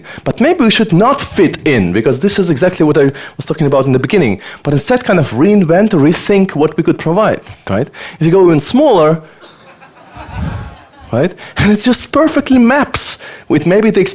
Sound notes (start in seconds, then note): 9.4 audience laughter